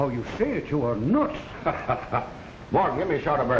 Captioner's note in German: Owens lacht